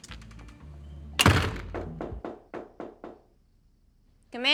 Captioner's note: knocking on door